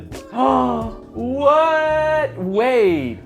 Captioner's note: gasps